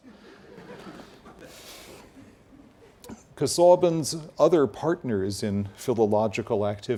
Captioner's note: laugh